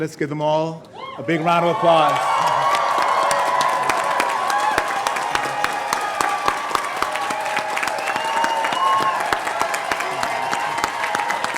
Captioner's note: cheers and applause